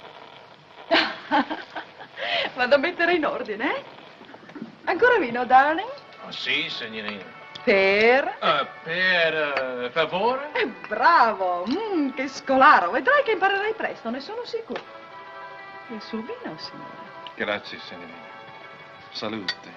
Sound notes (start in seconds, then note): 0.9 chuckles; 2.0 speaking in italian; 5.3 music continues playing; 11.4 speaking in italian